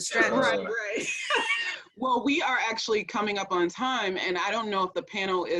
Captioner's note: laughing